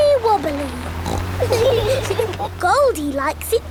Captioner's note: laughing